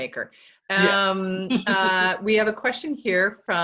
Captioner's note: laughs